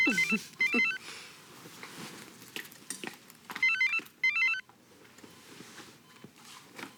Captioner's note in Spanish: un celular suena